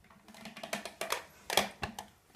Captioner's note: the juicer creaks